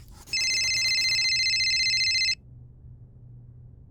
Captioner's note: cell phone ringing